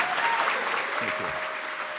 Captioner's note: applause & Cheering